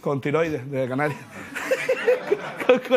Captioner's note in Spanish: Risas